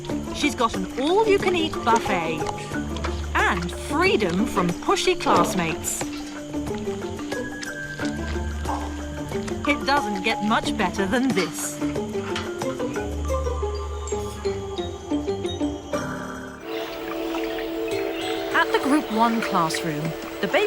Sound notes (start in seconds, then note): 6.4 bright upbeat music; 12.0 bright upbeat music; 16.6 water rustling